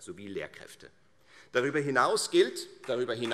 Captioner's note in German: Beifall Freie Demokraten